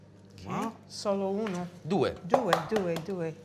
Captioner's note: speaking italian